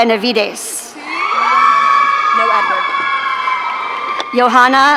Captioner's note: audience cheering